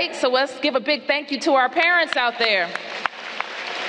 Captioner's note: applause